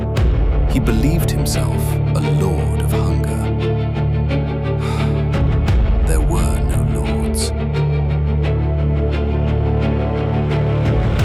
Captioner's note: exhales sharply